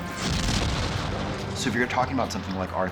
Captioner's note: spacecraft engines igniting